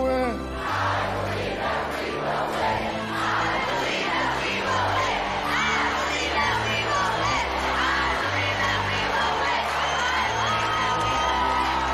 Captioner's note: chanting